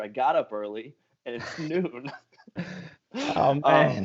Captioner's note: laughter